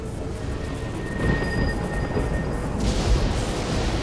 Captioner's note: thunder rumbling